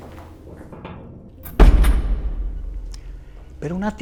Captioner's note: door closes